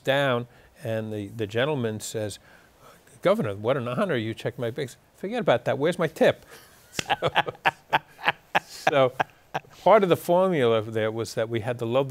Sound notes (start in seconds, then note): 6.9 laughing